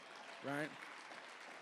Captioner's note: applause